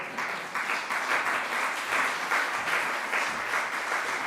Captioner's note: audience applauding